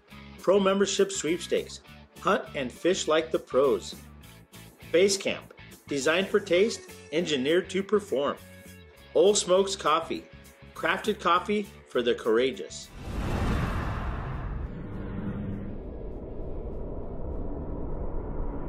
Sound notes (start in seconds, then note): 12.9 whoosh